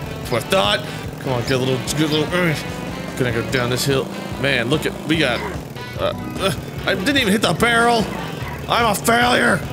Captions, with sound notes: That's what I THOUGHT! C'mon, give it a little-- give it a little (grunts) Gonna go down this hill. Man, lookit, we got-- Uh-eh-I didn't even hit the barrel! I'm a failure!